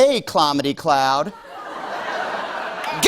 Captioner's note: laughter